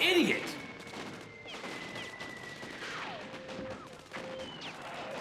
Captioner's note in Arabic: أصوات اللعبة